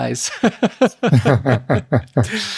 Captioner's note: both laughing